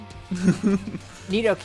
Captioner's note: laughs